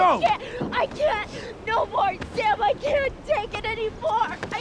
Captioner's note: sobbing